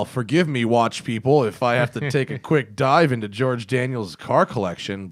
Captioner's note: laughter